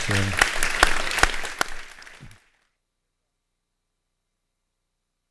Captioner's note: audience applauding